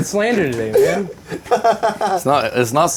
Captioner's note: laughing